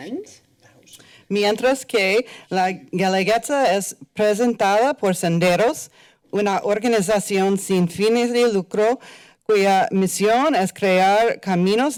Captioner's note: foreign language